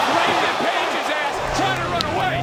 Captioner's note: audience gasping